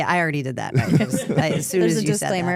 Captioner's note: laughs